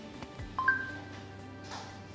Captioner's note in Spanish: blip